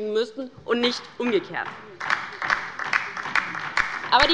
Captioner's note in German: Beifall bei der LINKEN